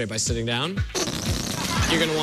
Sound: farting noise

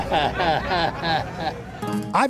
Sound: chuckles

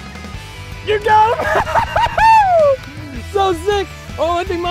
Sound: laughing

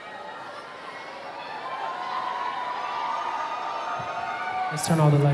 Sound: audience applauding

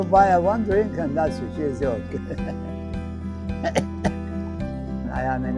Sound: laughs

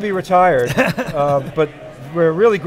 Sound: laughing

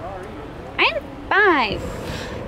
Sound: sarcastic tone

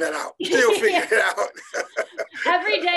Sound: laughing

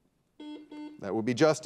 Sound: buzzer dings

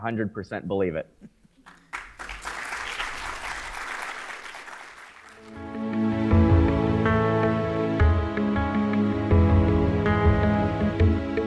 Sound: applause

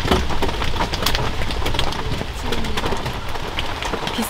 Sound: the sound of rain coming from the car

